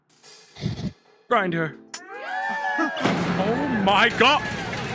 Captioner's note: crowd cheers